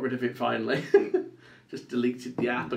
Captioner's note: laughs